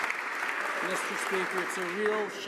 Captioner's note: some Applause